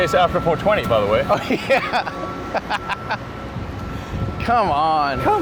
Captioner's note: laughs